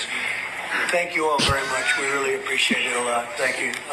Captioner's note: laughs